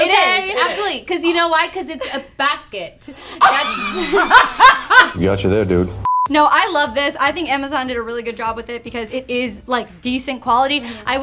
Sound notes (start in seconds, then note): 0.0 laughs; 3.3 laugh